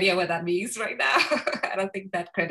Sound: chuckles

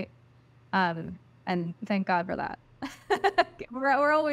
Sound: laughs

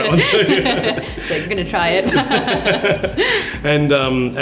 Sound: laughs

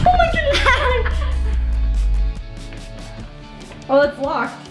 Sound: laughing

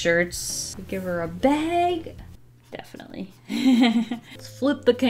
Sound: laughs

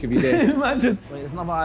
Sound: laughing

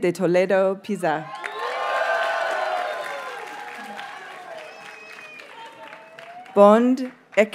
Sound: audience cheers and applauds

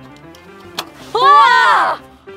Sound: screaming

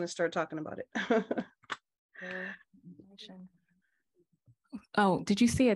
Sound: laughter

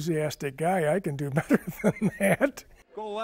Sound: laughs

